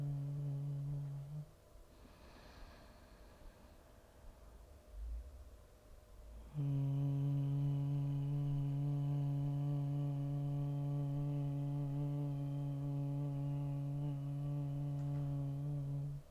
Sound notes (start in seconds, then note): 0.0 humming; 1.9 inhaling; 6.4 humming